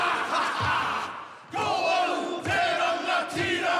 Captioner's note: all chant haka